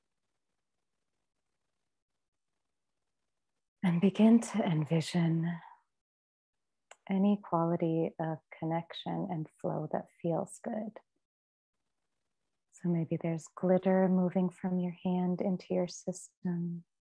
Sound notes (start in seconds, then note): none